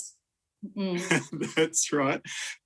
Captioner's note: laughs